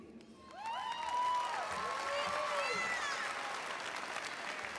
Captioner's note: audience cheering